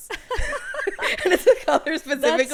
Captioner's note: laughing